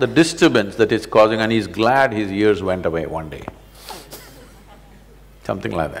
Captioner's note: laughs